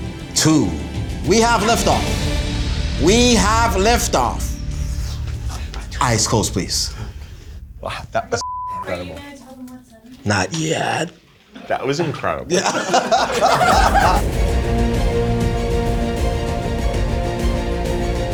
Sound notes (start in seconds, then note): 8.2 Keith whispers; 13.4 all laugh; 15.4 dramatic music